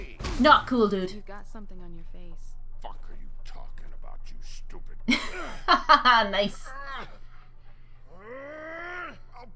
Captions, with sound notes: Not cool, dude! [Laughs] Nice!